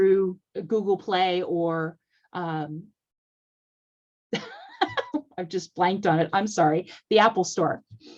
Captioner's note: laughter